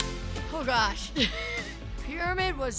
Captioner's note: laughs